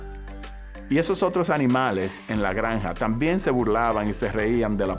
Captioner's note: speaking Spanish